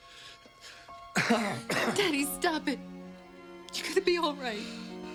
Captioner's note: coughs